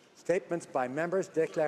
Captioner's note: speaking French